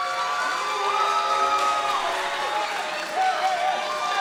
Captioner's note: crowd cheering